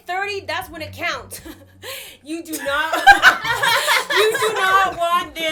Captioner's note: laughter